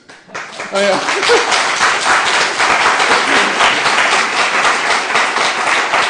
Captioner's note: applause